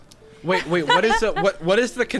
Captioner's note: laughing